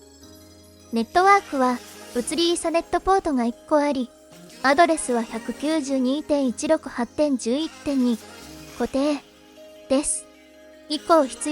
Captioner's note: static